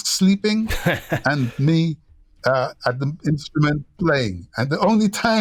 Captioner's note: laughter